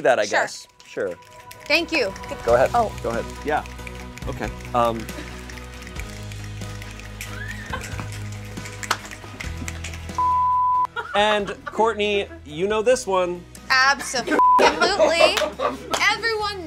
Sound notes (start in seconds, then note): 4.5 inspirational music; 10.2 beep; 14.3 beep